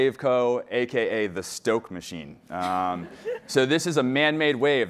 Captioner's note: laughing